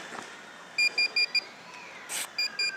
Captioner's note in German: Piepsen